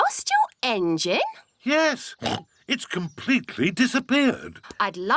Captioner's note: oinks